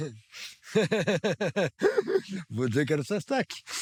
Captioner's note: laughter